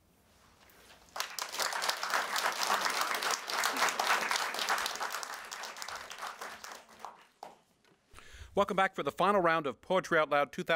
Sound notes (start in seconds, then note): 1.0 applause